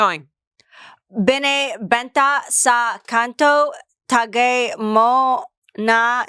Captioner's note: speaks foreign language